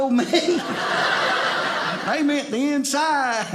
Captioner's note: audience laughing